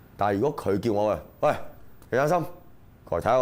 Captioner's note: in serious tone